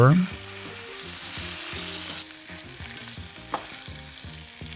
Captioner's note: shanks sizzling